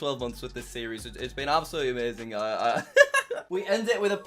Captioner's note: laughs